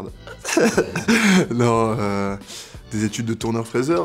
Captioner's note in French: rire